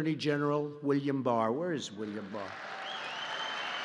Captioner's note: applause